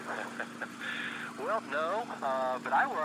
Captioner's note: laughing